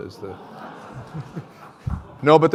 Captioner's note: laughter